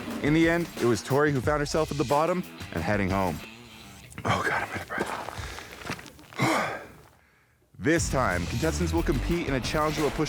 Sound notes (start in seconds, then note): 6.4 exhales heavily